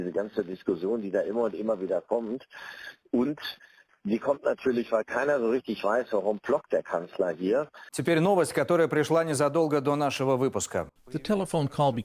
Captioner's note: speaking dutch language